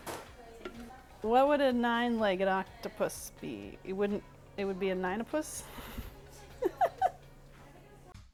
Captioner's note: laughs